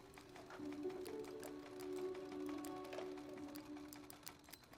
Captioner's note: sewing machine hums